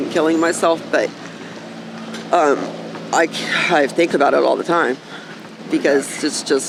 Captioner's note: sighing